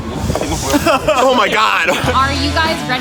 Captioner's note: laughing